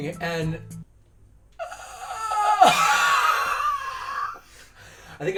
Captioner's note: wheezing